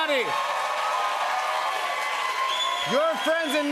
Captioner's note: cheers and applause